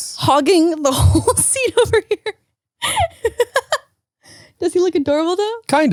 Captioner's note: laughs